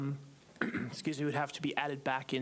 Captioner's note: clears throat